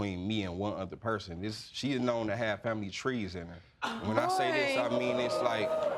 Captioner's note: audience exclaiming